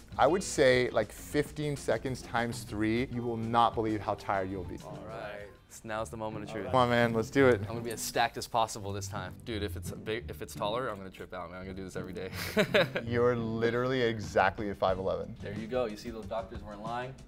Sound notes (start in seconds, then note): 12.3 laughs